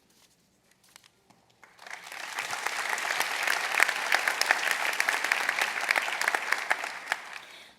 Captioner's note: applause